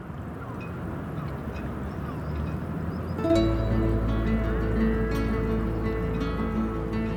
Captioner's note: peaceful music; seabirds honking